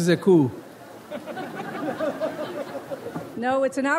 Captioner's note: audience laughs